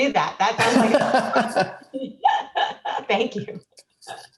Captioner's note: laughing